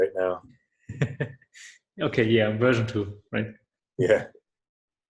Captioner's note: laughs